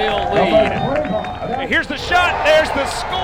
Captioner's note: announcer speaking in background